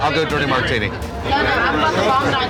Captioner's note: chatter